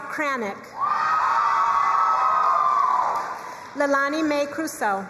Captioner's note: crowd cheering and applauding